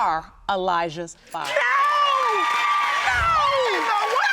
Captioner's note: audience cheers